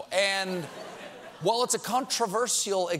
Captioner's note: laughter